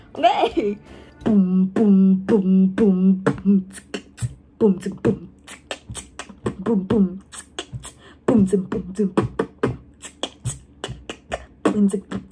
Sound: trying to beatbox

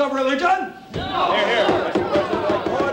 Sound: gavel pounding

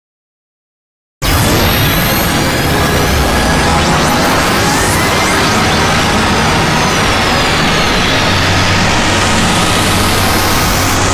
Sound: sound of radio signal

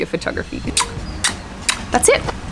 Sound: kiss sounds

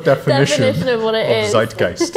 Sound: laughing

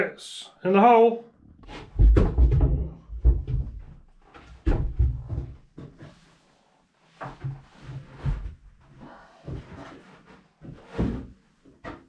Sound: footsteps

